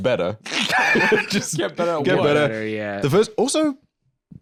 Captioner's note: laughs